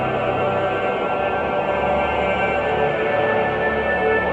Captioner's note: none